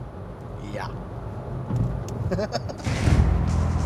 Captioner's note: giggles